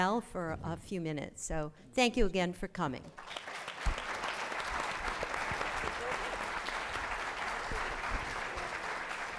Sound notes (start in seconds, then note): 3.1 applause